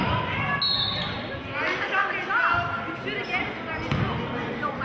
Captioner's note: whistling